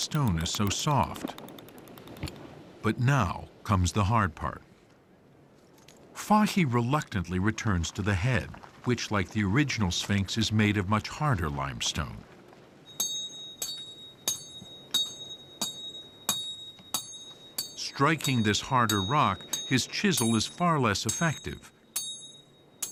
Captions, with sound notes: because the stone is so soft. But now comes the hard part. Fathi reluctantly returns to the head, which, like the original Sphinx, is made of much harder limestone. (chisel ringing as it strikes) Striking this harder rock, his chisel is far less effective,